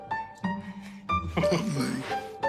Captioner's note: chuckles